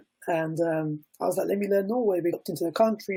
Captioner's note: Norwegian